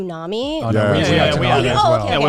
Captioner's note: group agreeing